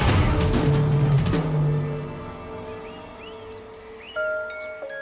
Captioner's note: birds chirping